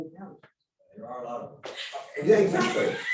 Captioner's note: laughs